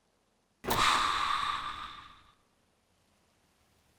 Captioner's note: air releasing